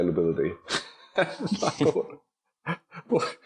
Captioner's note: laughing